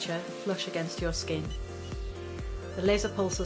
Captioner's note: device beeps